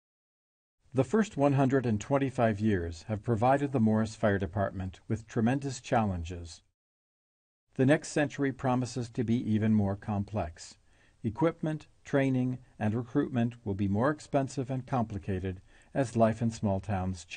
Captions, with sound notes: - [Voiceover] The first 125 years have provided the Morris Fire Department with tremendous challenges. The next century promises to be even more complex. Equipment, training, and recruitment will be more expensive and complicated,